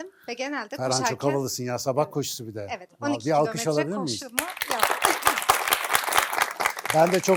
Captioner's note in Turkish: alkış